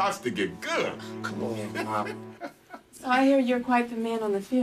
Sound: laughing

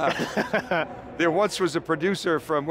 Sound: laughing

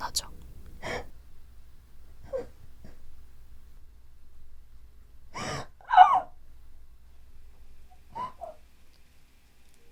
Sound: Youngwon's sobbing continues

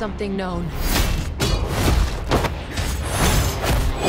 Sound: men fighting

